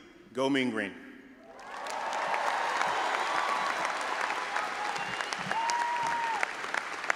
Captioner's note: all applauding and audience cheering